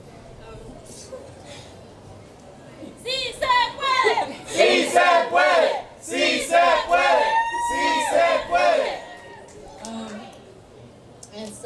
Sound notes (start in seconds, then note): 3.1 chanting in foreign language; 4.6 crowd